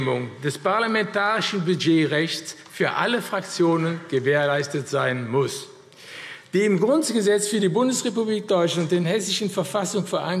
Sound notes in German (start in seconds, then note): none